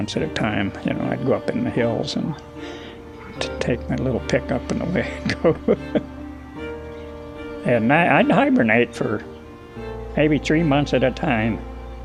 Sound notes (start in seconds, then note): 4.6 chuckles